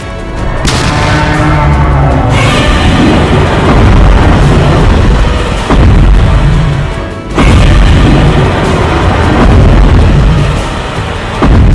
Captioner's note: Godzilla stomping and roaring